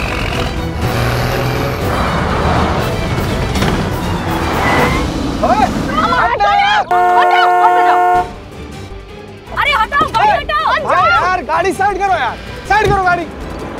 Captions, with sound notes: [tires screeching] - Hey! Move aside! - [horn honking] - Move your car. - Move your car to the side. Move your car to the side.